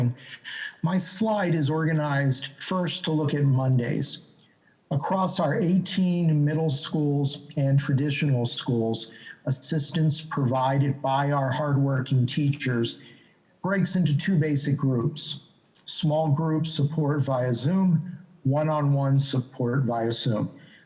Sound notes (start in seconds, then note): none